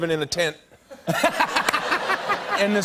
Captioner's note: laughter